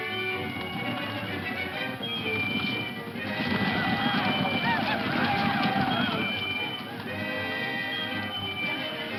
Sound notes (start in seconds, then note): 0.4 dramatic music; 3.9 whooping; 7.0 dramatic music